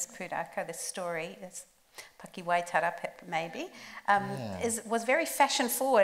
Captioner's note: speaks Māori